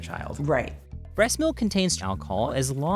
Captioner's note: voiceover